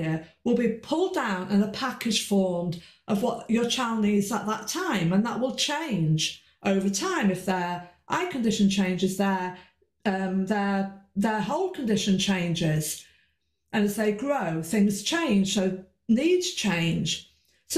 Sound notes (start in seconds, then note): none